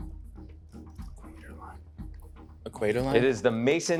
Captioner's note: whispering